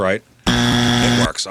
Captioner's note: buzzer